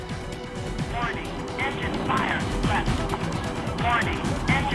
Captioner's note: automated Voice